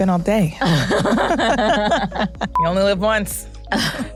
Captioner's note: laughter